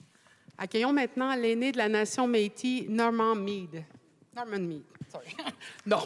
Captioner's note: speaking French